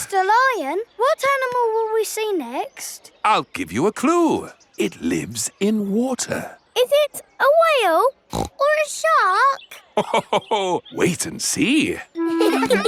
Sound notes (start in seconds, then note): 8.3 snorts; 12.2 children laughing; 12.2 laughs